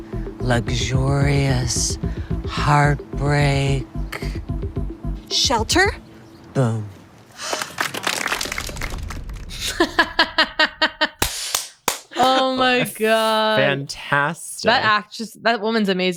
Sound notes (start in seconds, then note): 7.4 applause; 9.5 chantal laughing